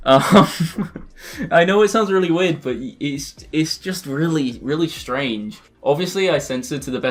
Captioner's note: nervous laughing